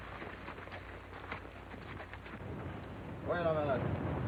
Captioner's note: horse trotting